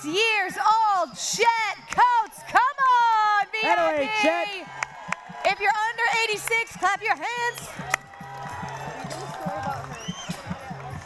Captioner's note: cheering